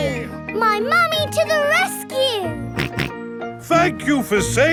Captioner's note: snorting